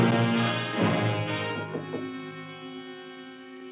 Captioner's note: knock at door